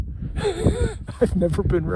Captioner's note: laughing